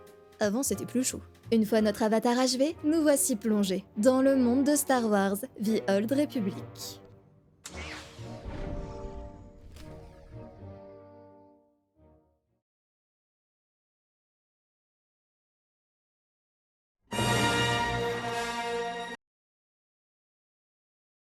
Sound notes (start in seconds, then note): 7.6 in-game noises; 16.7 intro music